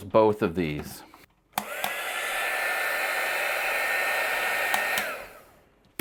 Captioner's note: sounds of power switch